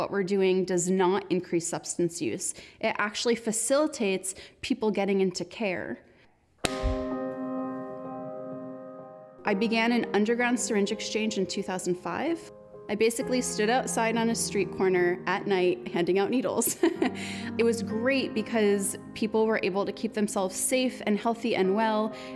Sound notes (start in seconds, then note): 16.6 laughter